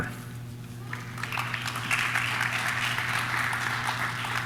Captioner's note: audience claps